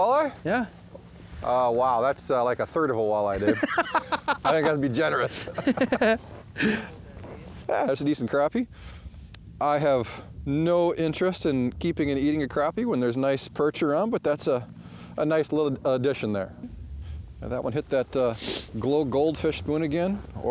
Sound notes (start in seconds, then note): 3.3 laughs